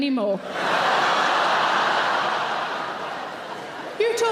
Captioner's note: audience laughs